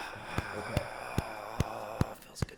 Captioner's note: sighing